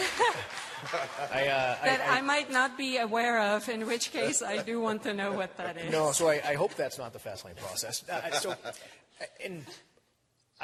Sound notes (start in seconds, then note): 2.0 applause